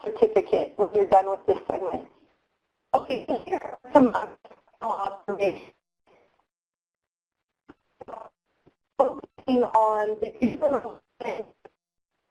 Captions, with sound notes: when you're done with this segment. (distorted audio)